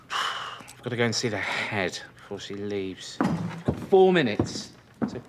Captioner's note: sighs